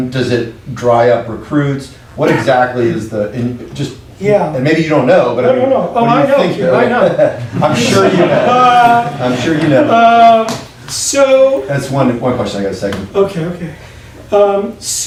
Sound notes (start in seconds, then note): 6.7 laughing